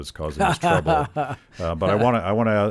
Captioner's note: Rand laughing